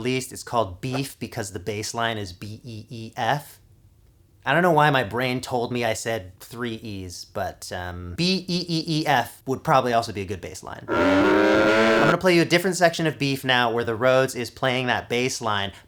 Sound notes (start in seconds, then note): 10.8 crazed cow noise